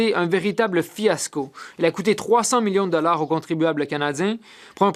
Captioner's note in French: voix de l'interprète